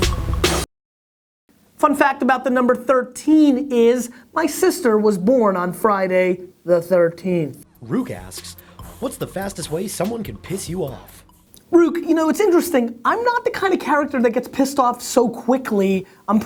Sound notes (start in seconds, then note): 7.9 voiceover